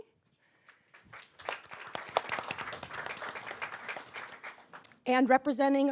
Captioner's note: audience applauds